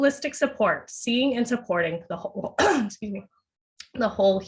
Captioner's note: coughs